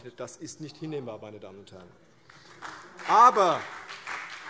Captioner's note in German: Beifall CDU und BÜNDNIS 90/DIE GRÜNEN